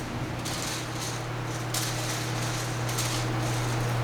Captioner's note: pencils rattling